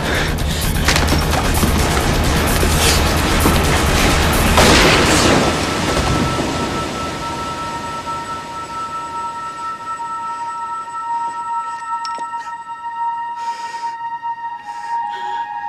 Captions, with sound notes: Well, you aren't such hot stuff now, are you? [gunshot]